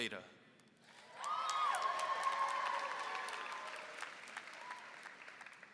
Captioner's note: applause and cheering